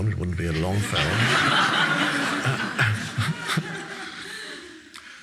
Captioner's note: audience laughing